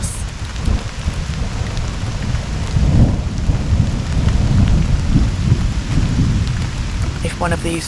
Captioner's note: thunder